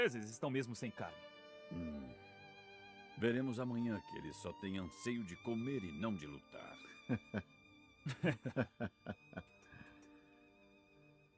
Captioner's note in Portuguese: risadas